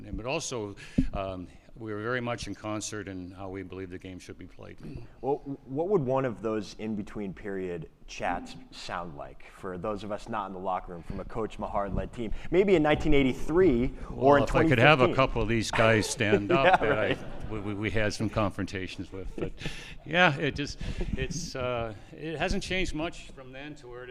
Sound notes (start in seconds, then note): 15.7 laughs